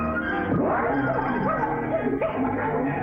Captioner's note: bird squawking